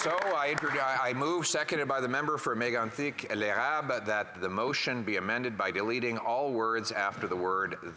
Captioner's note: some Applause